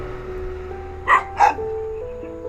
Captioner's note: doggo barking